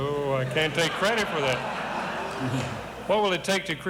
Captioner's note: audience laughs